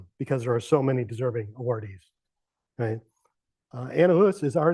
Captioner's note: none